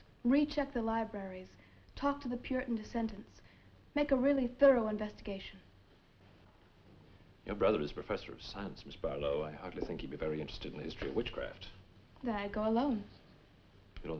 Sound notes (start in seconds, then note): none